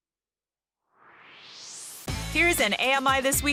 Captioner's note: swoosh